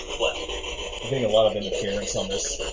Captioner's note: ghostly voices